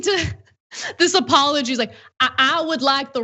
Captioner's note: laugh